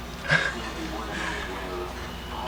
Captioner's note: chuckles